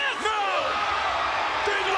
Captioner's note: spectators cheering